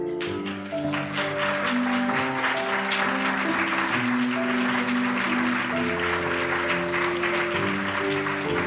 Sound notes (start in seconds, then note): 0.9 applause